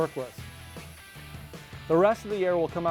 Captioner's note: air hissing as it leaves the vest